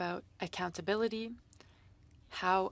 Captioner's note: speaking French